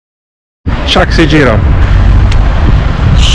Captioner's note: speaking Italian